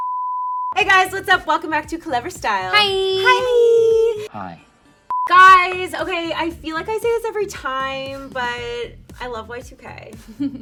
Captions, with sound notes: (beep) Hey guys, what's up? Welcome back to Clevver Style. - Hi. - Hi. - Hi. (beep) - Guys okay, I feel like I say this every time, but I love Y2K.